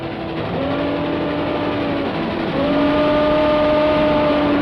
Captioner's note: train whistling